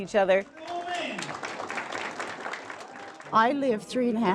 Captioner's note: applause